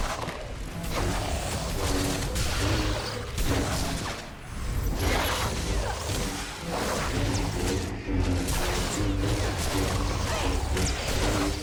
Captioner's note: gunfire